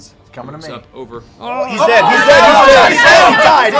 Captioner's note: yelling